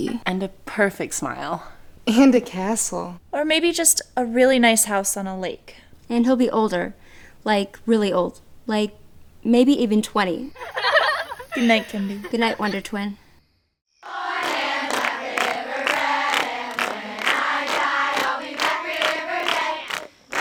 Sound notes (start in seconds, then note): 10.5 girls giggling